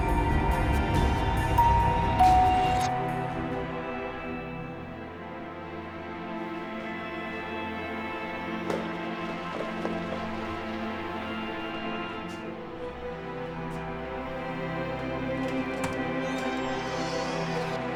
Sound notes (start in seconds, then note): 0.0 door bell rings; 6.0 soft music